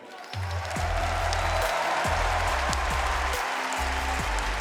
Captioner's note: audience applauding